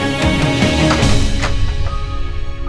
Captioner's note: Door opens